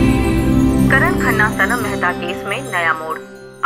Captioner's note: News on TV